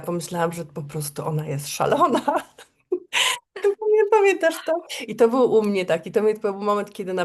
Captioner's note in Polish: śmiech